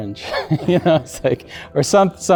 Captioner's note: chuckles